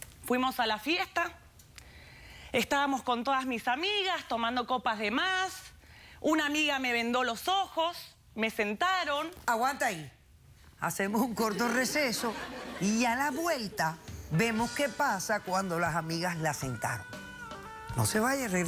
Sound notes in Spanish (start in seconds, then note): 11.4 risas